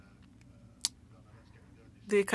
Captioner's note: speaking French